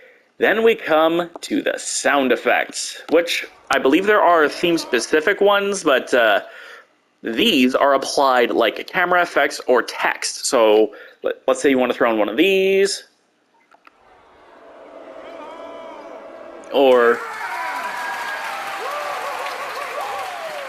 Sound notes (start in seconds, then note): 3.1 sound effect of boo starts up; 5.3 sound effect dies; 17.2 sound of cheering and clapping, eventually a recording saying "whoo whoo whoo!"